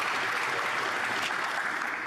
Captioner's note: some Applause